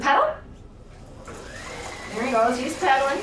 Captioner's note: pedals cycling